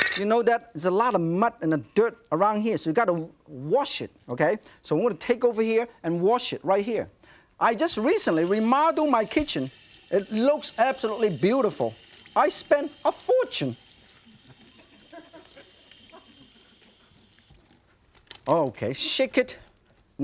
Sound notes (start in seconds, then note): 9.7 water flowing; 14.2 audience laughing